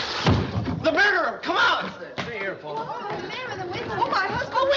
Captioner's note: chattering